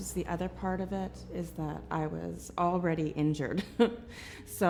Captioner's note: chuckles